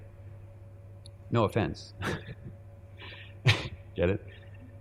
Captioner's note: chuckling